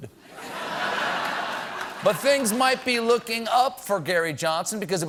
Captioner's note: laughter